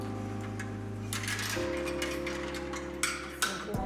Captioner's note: hangers clatter